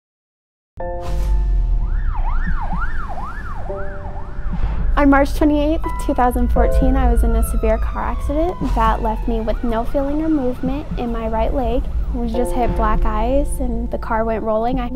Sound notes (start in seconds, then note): 1.0 piano music; 1.2 sirens